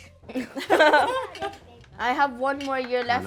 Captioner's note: family laughing